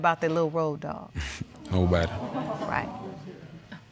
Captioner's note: chuckles softly